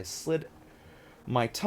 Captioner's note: deep breath